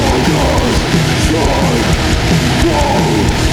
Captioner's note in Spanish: Perturbada